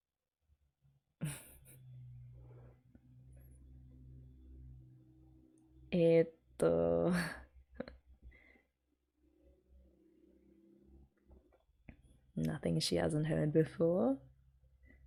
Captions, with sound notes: [chuckles] Eeto.... Nothing she hasn't heard before.